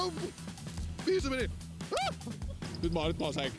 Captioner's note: scream